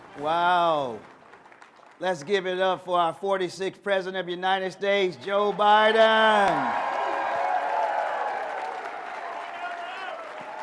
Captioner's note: cheers and applause